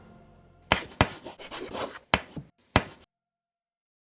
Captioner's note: chalk writing